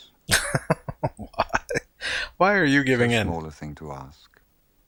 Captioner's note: laughing